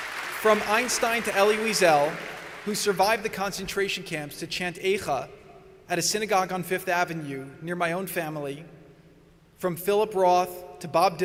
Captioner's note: applause